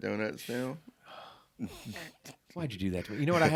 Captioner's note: chuckling